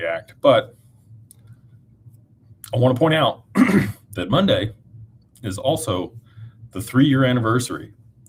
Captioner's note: clears throat